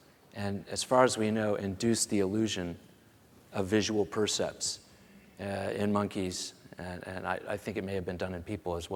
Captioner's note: none